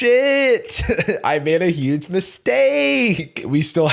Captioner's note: chuckles